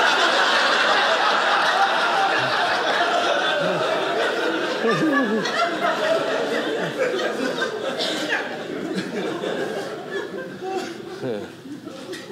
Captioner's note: audience laughing